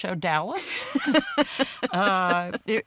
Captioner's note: both laughing